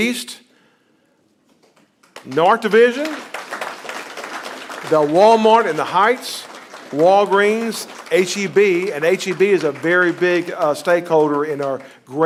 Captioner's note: applause